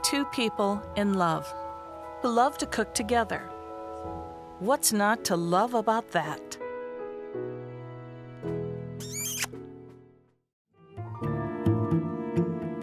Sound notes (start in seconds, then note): 7.1 instrumental music; 9.0 kiss smack